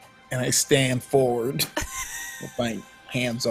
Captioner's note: laughs